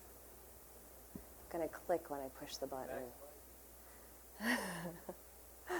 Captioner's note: laughing